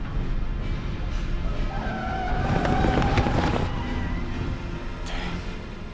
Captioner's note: wheels Screeching